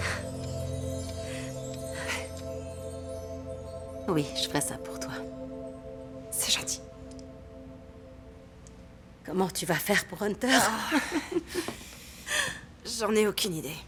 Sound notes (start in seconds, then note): 1.7 sighs; 10.5 laughing